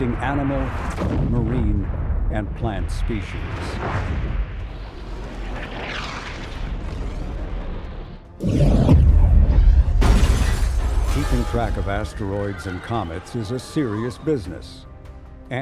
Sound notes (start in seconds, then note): 8.4 asteroid slams; 10.0 windows shatter